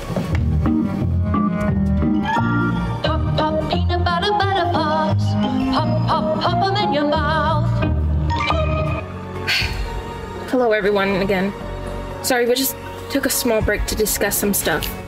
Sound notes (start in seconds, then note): 9.4 sighs